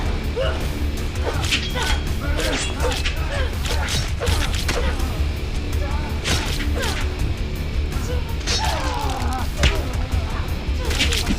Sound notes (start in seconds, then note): 4.4 both grunting; 8.5 guts squishing